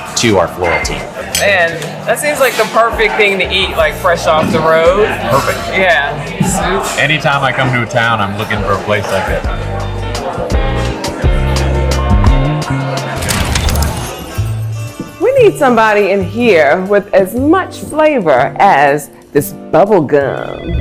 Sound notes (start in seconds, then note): 13.2 film strip crackles